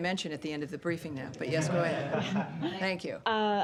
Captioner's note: laughter